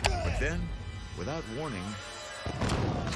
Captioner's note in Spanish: música tensa; jadea